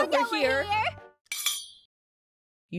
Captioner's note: sword clanking